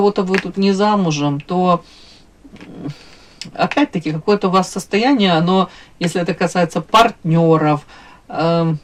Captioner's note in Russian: фыркает